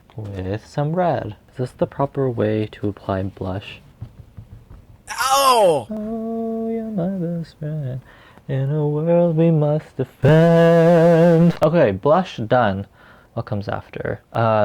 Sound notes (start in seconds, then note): 9.4 humming